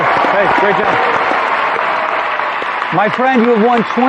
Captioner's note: cheering and applause